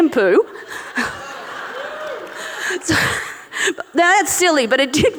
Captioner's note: audience laughing